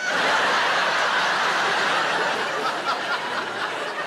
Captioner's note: audience laughing